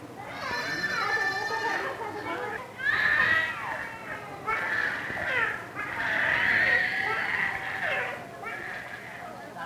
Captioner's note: baby crying; indiscriminate chatter